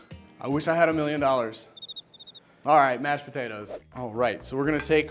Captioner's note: cricket sounds